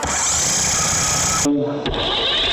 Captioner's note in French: ventilateur vrombissant; la pompe grince